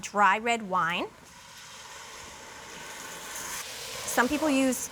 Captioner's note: sizzles